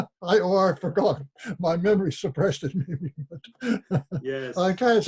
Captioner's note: laughs